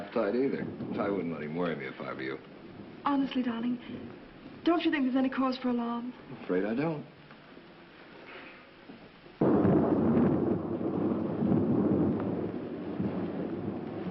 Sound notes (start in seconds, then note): 9.4 thunder